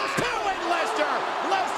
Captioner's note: audience groans